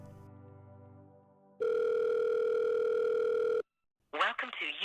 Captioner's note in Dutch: telefoon gaat over